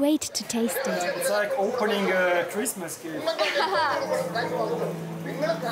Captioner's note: laughing